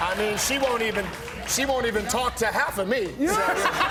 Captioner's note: laughter